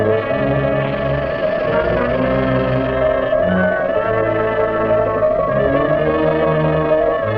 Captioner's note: suspenseful music; serpent hisses and rattles